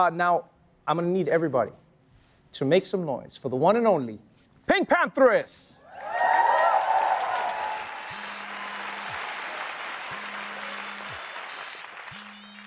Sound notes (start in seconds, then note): 5.8 cheering; 8.0 phone ringing